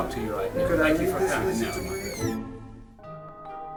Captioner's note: shuts door